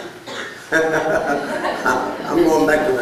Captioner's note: laughter